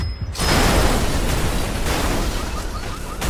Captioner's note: cars crashing